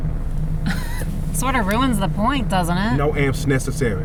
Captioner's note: scoffs